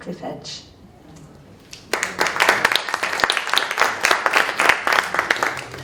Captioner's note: audience applauds